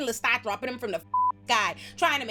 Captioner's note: beep